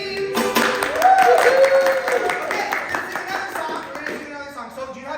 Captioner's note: applause